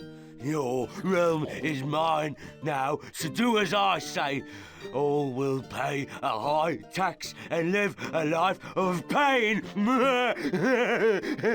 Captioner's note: grunt